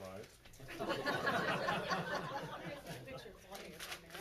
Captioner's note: laughs